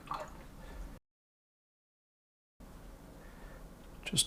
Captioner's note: silence